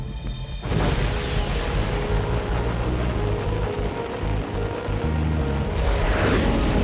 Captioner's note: dramatic music; rocket blasting